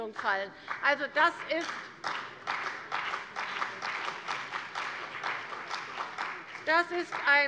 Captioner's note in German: Beifall bei der CDU und dem BÜNDNIS 90/DIE GRÜNEN